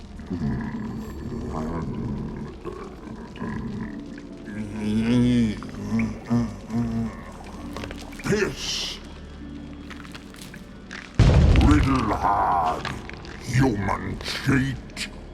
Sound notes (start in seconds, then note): 11.2 loud stomp